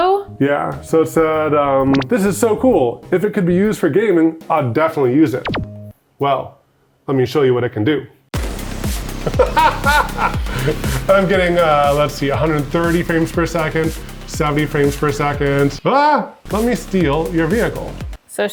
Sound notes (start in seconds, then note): 8.3 upbeat electronic music; 9.2 laughing